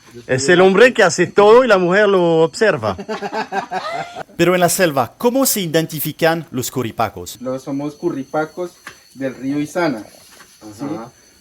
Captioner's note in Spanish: risa